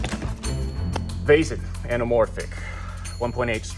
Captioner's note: case clicking; sighs